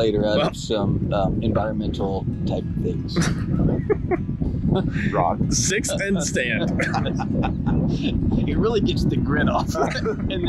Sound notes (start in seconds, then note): 3.0 laughs